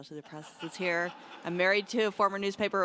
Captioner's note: audience laughs